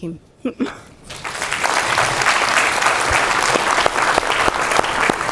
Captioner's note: crowd applauds